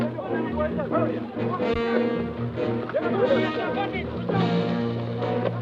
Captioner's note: guerrillas talking excitedly